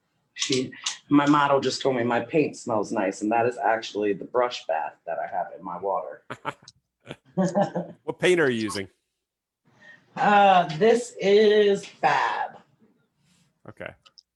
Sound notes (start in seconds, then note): 6.2 laughs